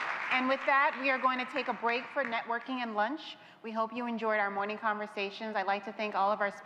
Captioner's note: applause